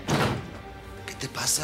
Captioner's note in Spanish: portazo